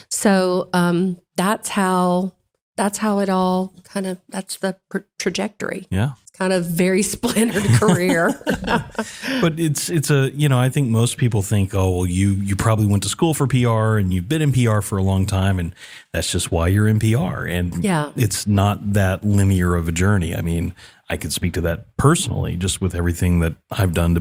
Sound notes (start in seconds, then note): 7.2 laugh